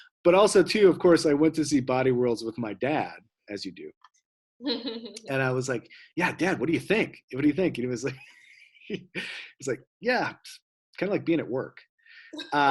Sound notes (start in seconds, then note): 4.6 laughs; 8.9 laughs; 12.4 laughs